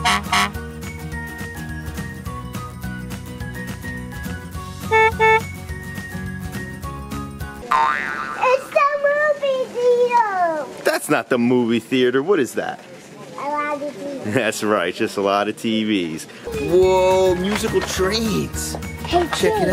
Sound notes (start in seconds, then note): 0.0 truck honking; 4.8 car honking; 7.6 boing